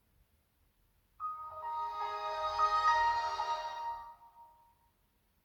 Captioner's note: Windows XP Startup sound